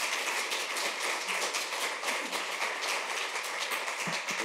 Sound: applause

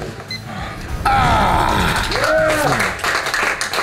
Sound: crowd cheering

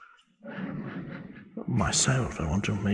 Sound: audience laughs

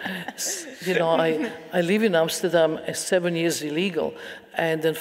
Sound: audience laughing

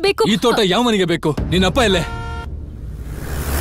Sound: horn blares

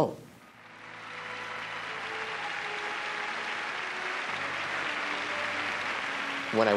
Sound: applause

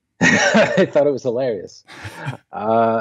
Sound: laughs

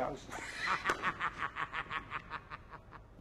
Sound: cackles

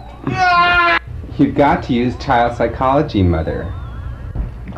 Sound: cries

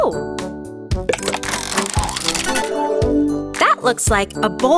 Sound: turning sound

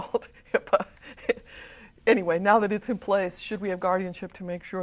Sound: chuckles

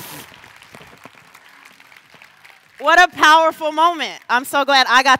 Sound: applause

